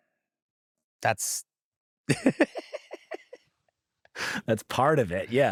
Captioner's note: laughs